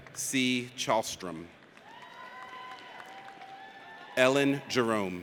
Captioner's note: audience cheers